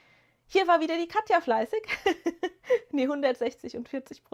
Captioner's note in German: gelächter